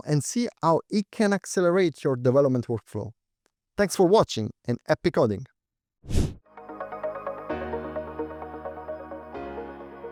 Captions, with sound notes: and see how it can accelerate your development workflow. Thanks for watching and epic coding. (screen whooshes) (thoughtful music)